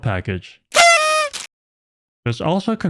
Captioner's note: party horn sound effect